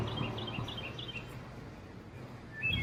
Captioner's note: birds chirping